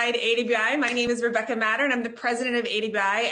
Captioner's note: claps